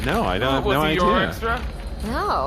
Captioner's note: flipping through papers